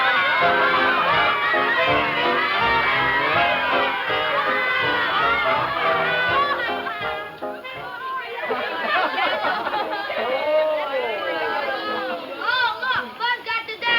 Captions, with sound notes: (upbeat music) (group chatter) - Oh look Buzz got the dasher.